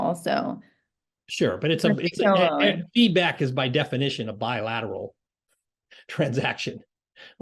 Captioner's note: laugh